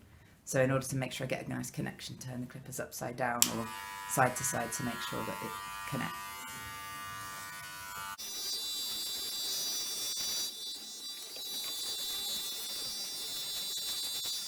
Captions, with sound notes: so in order to make sure I get a nice connection turn the clippers upside down or side to side to make sure that they connect [BUZZING]